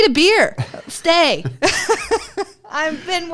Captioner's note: laughter